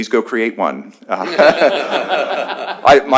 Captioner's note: laughter